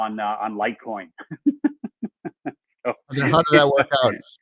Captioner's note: laughs